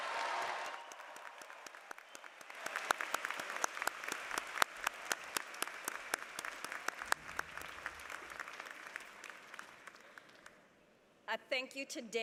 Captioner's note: applause